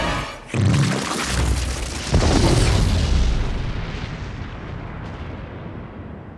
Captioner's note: explosion blasts; goo splatters